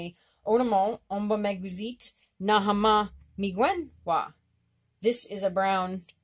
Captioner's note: speaking Abenaki